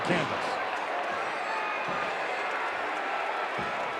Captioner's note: audience cheering